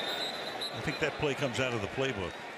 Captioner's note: whistle